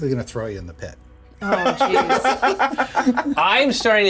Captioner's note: laughing